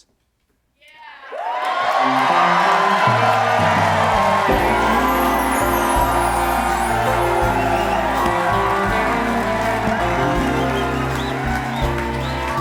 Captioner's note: cheers and applause